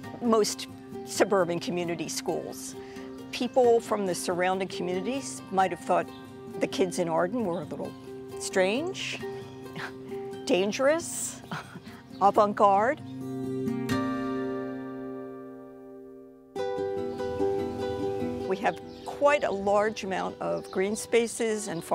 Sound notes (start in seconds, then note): 9.7 chuckles; 11.4 chuckles; 13.2 bright guitar music